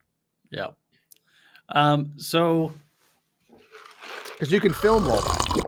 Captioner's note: slurping loudly